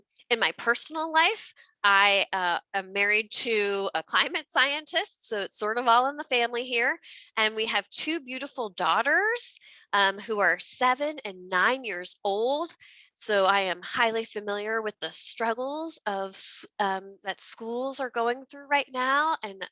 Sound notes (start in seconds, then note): none